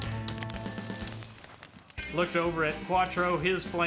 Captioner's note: fire crackling